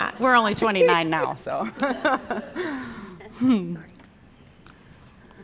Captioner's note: audience laughing